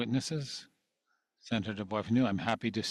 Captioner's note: speaking French